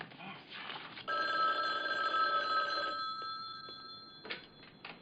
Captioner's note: telephone rings